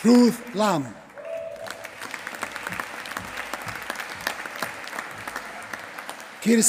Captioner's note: applause